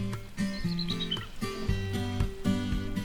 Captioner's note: bald Eagle calling